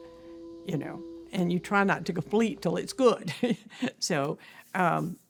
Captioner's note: chuckles